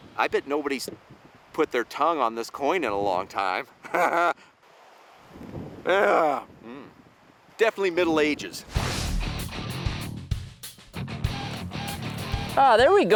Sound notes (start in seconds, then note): 5.8 groans; 9.0 beeping; 9.0 guitar music